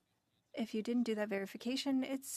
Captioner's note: speaking French